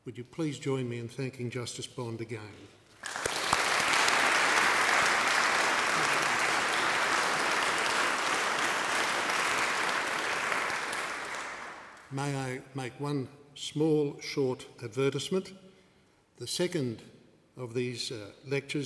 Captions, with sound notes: Would you please join me in thanking Justice Bond again. [APPLAUSE] May I make one small short advertisement. The second of these lectures